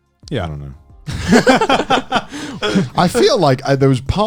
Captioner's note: laughs